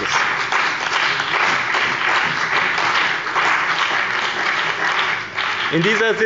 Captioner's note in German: Beifall bei dem BÜNDNIS 90/DIE GRÜNEN und der CDU sowie bei Abgeordneten der FDP